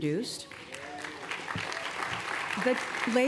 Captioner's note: applause